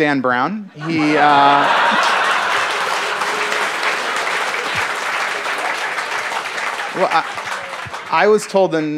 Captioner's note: laughter and applause